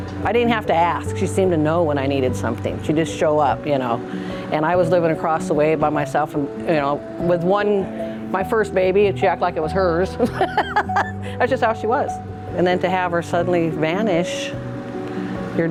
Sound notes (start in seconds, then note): 10.2 laughs